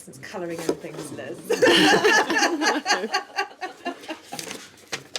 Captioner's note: laughing